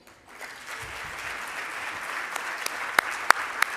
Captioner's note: applause